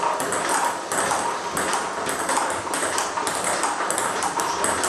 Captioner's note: ball ping pong hitting continues